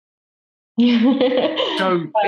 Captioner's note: laughing